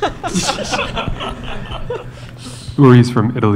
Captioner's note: laughter